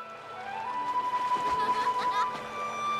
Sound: laughter

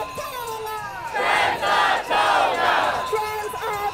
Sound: crowd

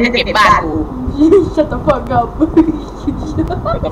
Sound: laughs

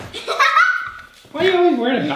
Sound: laughing

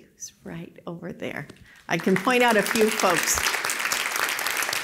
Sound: applause

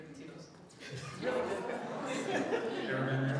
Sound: audience laughing

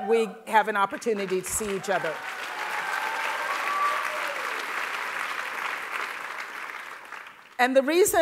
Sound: applause

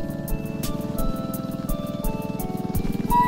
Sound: motor hums

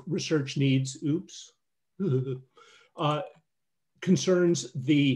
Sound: chuckles

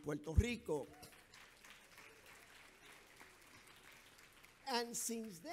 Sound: audience applauds

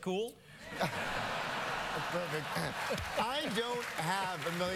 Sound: laughter

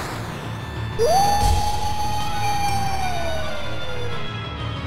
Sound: howl

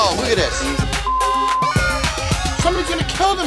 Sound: beep

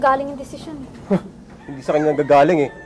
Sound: scoffs

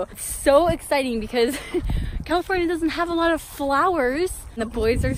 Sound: laughs

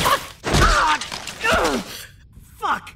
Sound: grunting in pain

